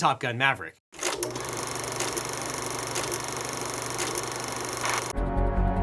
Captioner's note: projector whirring; dramatic music begins